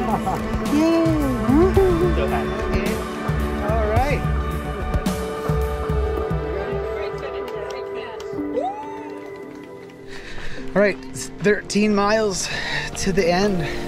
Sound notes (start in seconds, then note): 5.2 crowd chattering; 8.8 crowd cheers and applauds